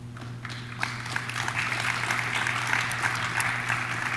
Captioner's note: audience claps